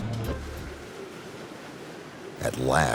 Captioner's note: wind howls